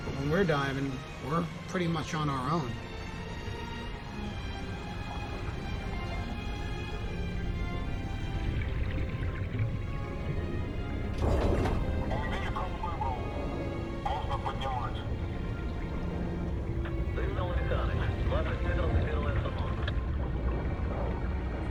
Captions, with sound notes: But when we're diving, we're pretty much on our own. (soft dramatic music) (diver speaking in foreign language) (man speaking in foreign language)